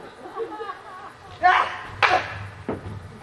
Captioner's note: whack